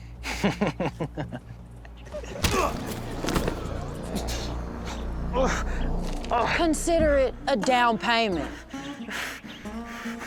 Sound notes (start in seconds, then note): 0.2 laughter; 2.3 crowd murmurs; 2.4 punch, grunt; 5.3 thomas grunts